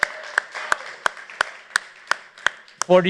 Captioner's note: applause